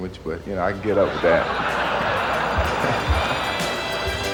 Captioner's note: crowd laughs